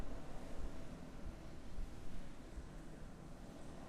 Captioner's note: none